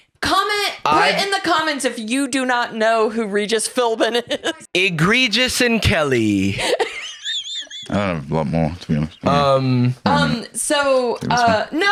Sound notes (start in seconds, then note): 6.6 laughs